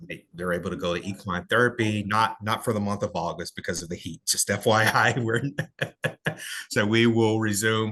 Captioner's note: laughter